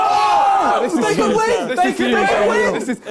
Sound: crowd cheering; crowd mumbling

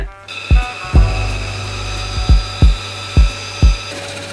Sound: saw grinding

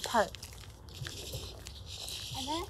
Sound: bird chirping

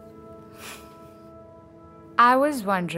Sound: scoffs

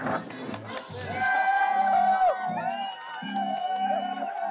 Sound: crowd cheering

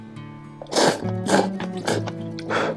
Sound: slurps

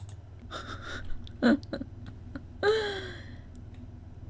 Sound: laughing

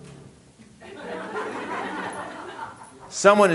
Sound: audience laughing

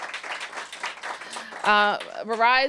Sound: applause

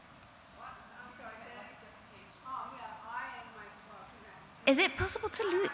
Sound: woman speaking faintly

